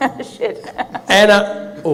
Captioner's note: laughing